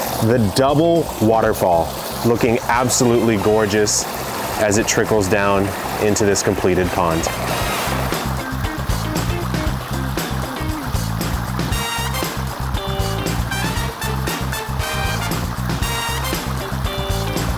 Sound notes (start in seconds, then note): 7.0 cheerful upbeat music; 7.3 water burbling